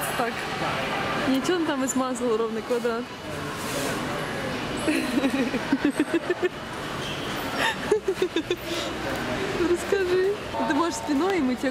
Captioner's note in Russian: смеются